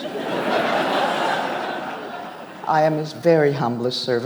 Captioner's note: audience laughs